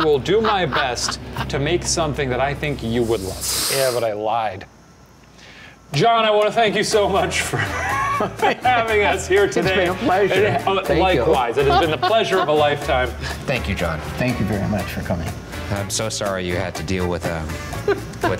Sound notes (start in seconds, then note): 0.0 laughs; 7.4 laughs